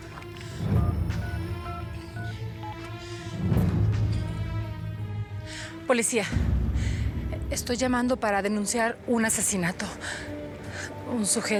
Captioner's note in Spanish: sonido al marcar